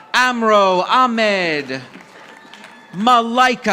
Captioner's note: audience applauding